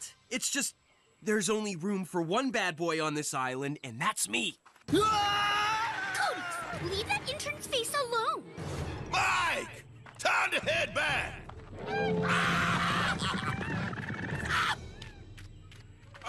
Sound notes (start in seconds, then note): 5.0 intern Screaming; 11.7 Rumbling, Chef Screaming; 14.4 groaning in Pain